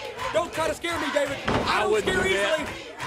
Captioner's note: crowd cheering